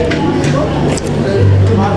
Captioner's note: slurping